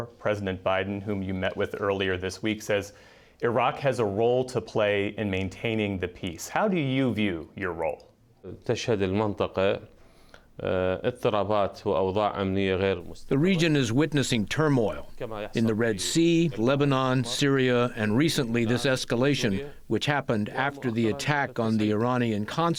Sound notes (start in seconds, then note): 14.1 through translator